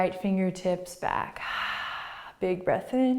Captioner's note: exhaling